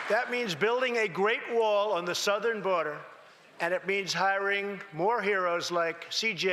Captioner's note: applause